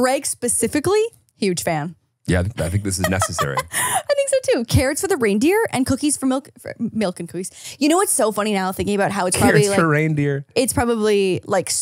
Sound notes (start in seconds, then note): 7.0 laughs